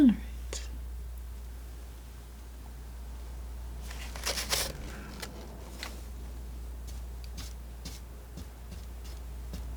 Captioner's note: scratching